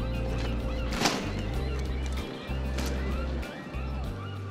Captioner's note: birds chirping; soft music; racks clattering